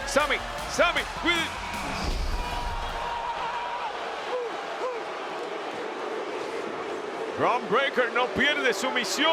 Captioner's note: applause